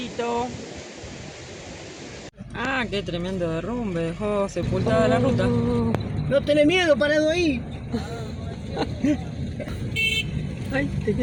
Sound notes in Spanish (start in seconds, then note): 7.9 risas